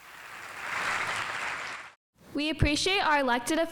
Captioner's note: audience applauding